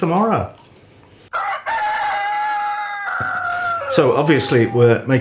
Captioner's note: cock a doodle doo